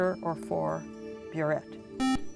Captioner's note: buzzer